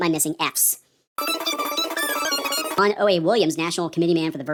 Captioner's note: squeaky gibberish